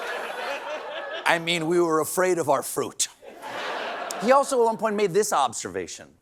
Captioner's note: laughter